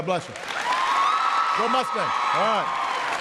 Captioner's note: applause